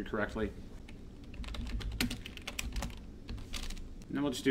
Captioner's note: keyboard typing